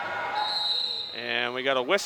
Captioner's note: whistle